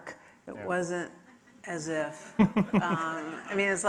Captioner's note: audience laughing